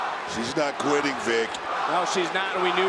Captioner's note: audience chanting